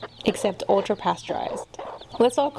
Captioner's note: chicks chirping, cudy-baas